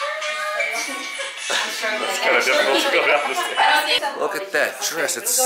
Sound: laughs

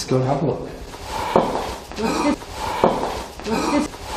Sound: breath exhaling

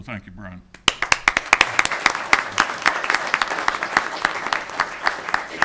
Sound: audience applauding

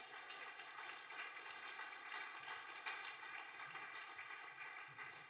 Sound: audience applauding

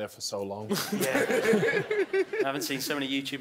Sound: laughing

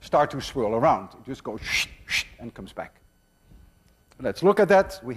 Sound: makes whooshing sound

